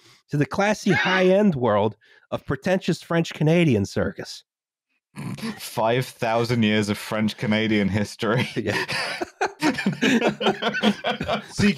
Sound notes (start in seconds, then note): 5.2 snorts; 8.2 laughter